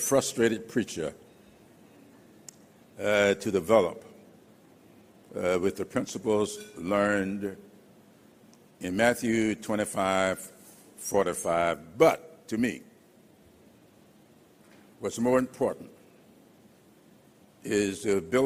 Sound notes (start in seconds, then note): none